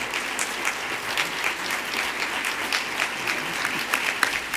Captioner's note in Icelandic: fagnaðarlæti